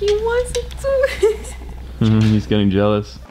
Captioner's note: giggles